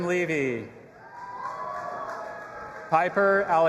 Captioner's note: audience applauding and cheering